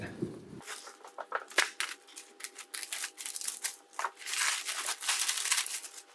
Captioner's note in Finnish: multasäkki rapisee